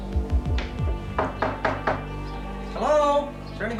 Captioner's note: knocking